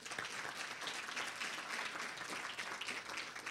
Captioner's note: applause